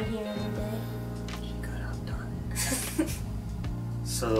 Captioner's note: whispers